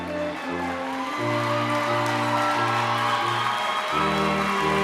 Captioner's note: cheering